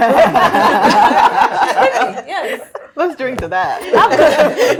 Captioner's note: all laughing